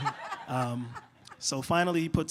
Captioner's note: laughter